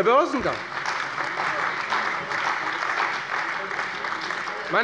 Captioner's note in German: Beifall bei der FDP und der CDU